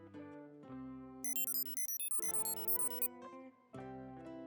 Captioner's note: beeping